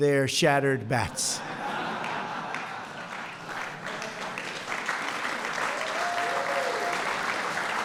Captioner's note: laughter and applause